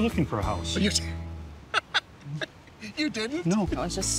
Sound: laughter

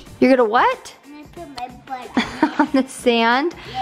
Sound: laughs

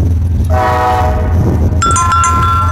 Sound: horn

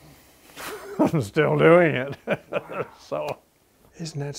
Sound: chuckles

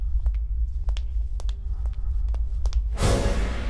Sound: footsteps

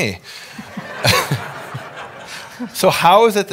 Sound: audience laughing

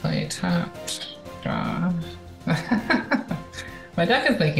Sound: laughs

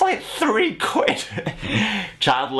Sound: chuckles

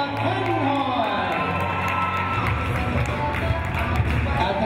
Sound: cheering

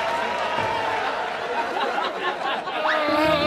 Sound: laughing; vaudeville

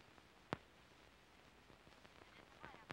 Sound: on phone

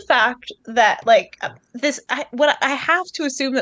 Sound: stutters

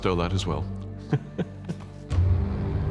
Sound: chuckles

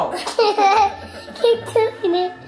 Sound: laughing

